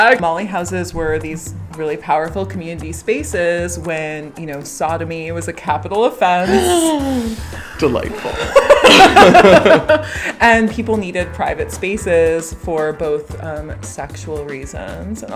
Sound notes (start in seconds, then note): 6.4 gasp; 8.6 both laugh